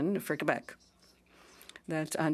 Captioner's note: speaking French